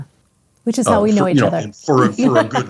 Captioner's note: laughs